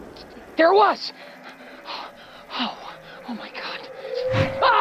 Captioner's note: breathing heavily